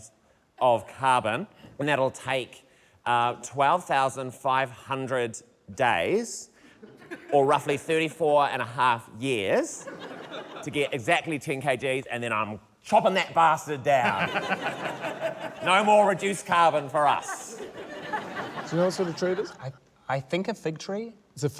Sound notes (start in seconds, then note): 14.0 laughter